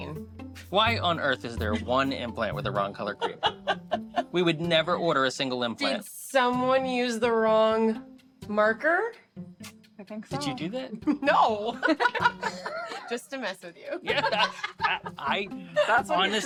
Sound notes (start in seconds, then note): 11.6 laughter; 11.8 laughs